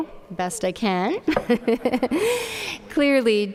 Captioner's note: giggling